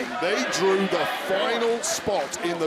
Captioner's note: crowd chants "pretty deadly"